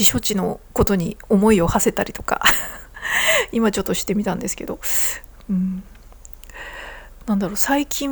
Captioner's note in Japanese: 息をのむ音